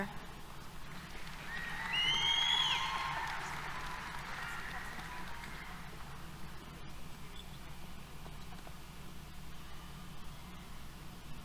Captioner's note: applause, Cheers